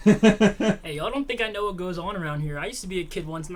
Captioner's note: Thomas laughs